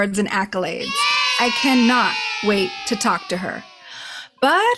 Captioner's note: kids cheering